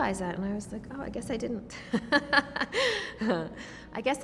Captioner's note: laughs